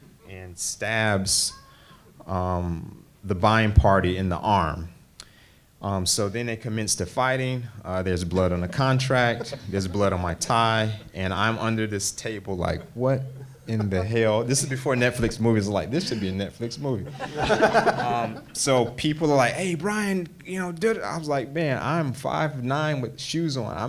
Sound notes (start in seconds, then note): 17.0 panel laughs